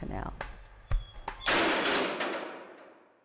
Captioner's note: clanging